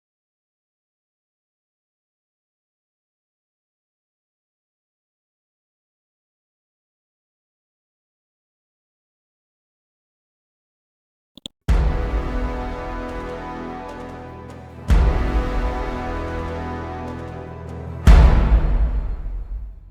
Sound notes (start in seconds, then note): 11.4 mouse clicks; 11.8 dramatic chord; 14.7 dramatic chord; 17.9 dramatic chord